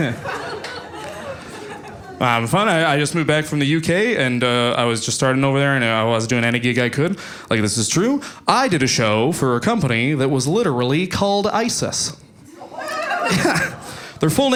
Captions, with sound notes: to teleportation. It's amazing you know. Paul had those nights like oh I was talking to my friends now I'm in jail. How did that happen? (audience laughing) That is whiskey teleportation my good friend.